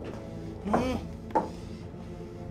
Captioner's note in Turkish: Ayak sesi